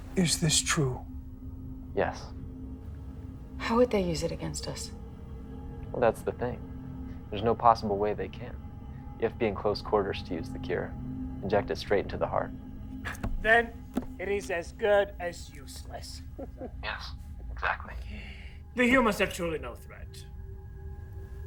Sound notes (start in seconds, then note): 13.3 solemn music continues; 16.3 Marie chuckling